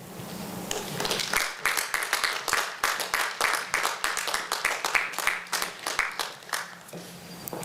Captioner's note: applause